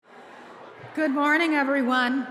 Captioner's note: chatter